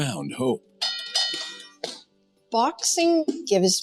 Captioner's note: boxing bell rings